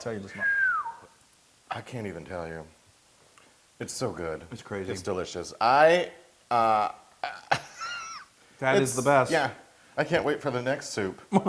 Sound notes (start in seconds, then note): 7.2 laugh; 11.2 laugh